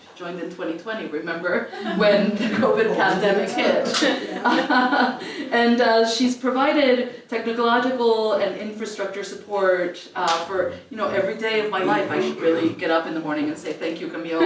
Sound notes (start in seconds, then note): 4.2 laugh